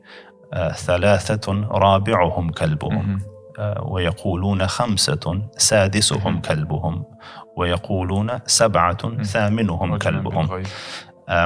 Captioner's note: Arabic